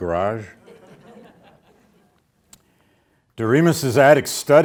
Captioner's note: audience laughs